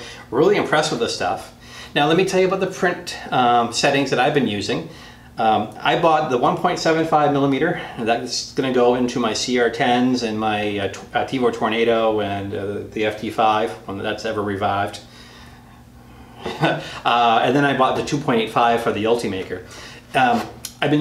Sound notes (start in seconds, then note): 16.4 laughs